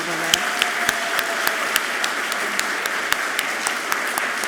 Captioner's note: all clapping loudly